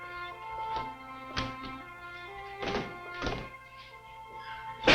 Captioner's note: door banging